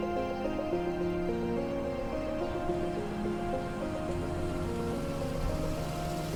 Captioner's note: engine humming